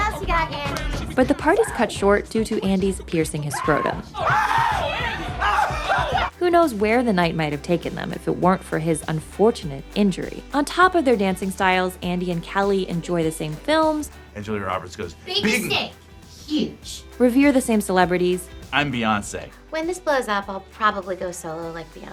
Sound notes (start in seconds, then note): 3.5 screaming in pain